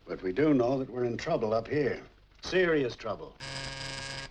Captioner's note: toque de telefone